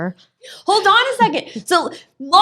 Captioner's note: laughing